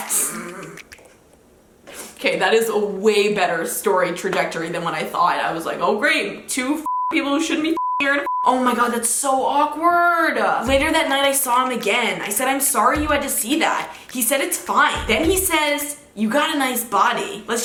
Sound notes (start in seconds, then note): 0.1 laughing; 7.6 beep